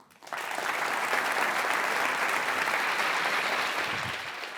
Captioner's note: applause